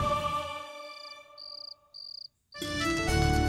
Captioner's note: crickets chirping; hopeful music playing